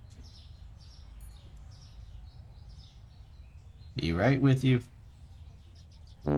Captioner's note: in game service bell